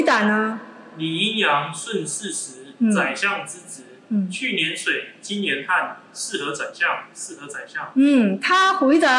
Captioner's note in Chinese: 朗讀